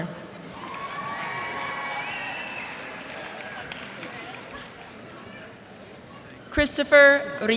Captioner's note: cheers and applause